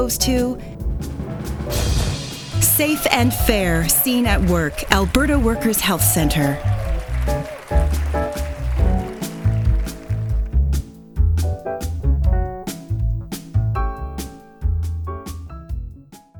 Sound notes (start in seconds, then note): 1.1 drumroll; 2.7 applause